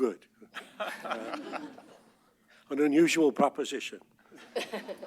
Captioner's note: laughter